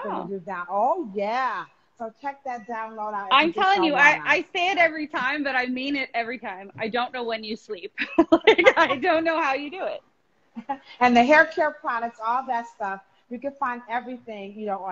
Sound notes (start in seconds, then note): 8.2 laughing